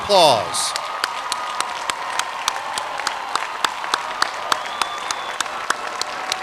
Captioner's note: cheering and applause